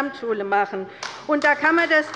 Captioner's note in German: Beifall bei der LINKEN